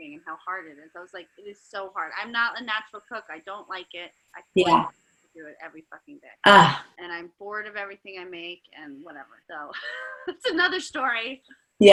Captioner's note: laughing